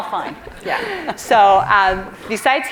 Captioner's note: audience laughs